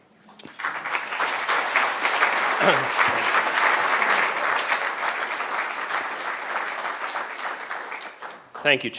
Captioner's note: applause